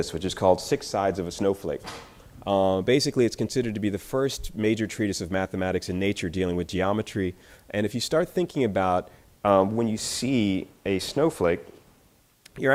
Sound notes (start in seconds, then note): none